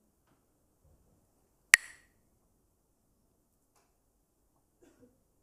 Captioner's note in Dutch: klakt met stokjes